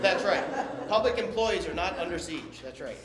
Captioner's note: laughter